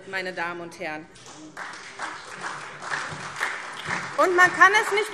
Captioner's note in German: Beifall SPD und vereinzelt DIE LINKE